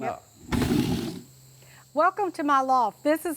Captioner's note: heavy wood sliding